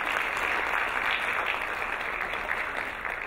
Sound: applauding

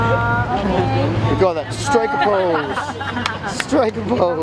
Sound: laughter

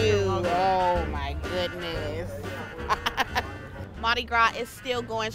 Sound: laughing

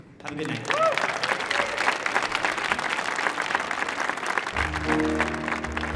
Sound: audience applauding

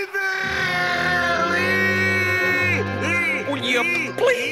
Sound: screaming

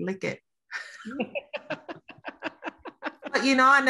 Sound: laughter

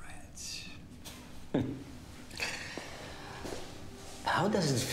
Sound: chuckles

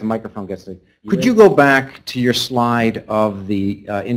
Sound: voiceover

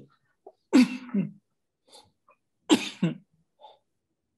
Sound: coughs

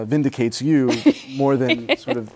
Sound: laughs

